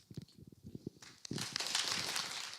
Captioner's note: applause